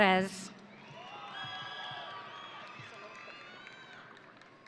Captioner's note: audience cheering